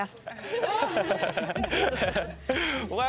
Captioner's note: laughter